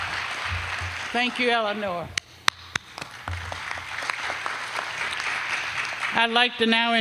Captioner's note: applause; applause